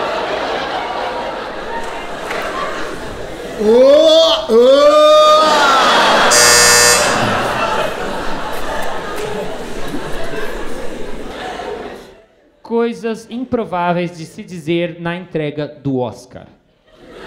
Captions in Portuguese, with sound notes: Ôôa, ôôa... [campainha] 'Coisas improváveis de se dizer na entrega do Oscar'